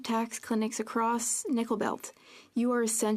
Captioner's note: speaking French